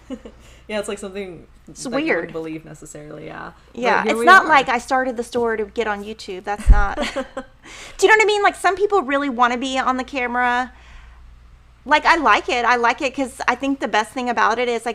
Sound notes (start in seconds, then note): 0.0 chuckling; 6.5 laughing